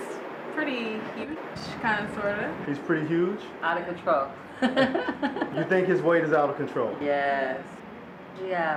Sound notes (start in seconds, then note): 3.0 voiceover; 4.6 laughs; 5.8 voiceover